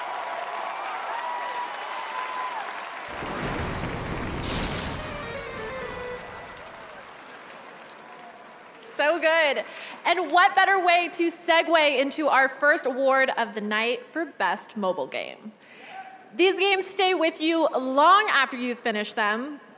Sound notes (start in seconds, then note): 5.0 cheers and applause